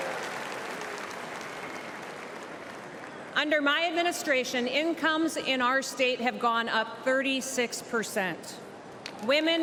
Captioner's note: cheers and applause